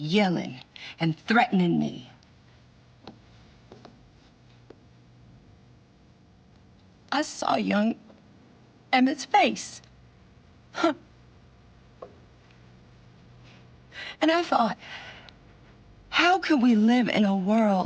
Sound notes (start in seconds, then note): 7.4 voice breaking